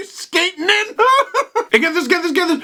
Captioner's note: laughs more